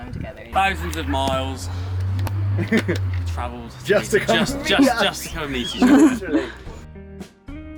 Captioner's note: laughs